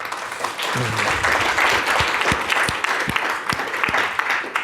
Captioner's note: audience applauds